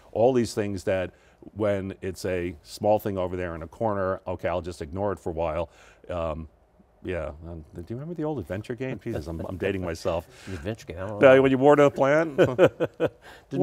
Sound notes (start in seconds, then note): 8.8 laughs; 11.3 laughs